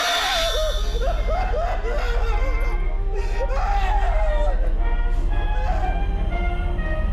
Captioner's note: victim shrieking; sudden ominous music; cheerful 1920's music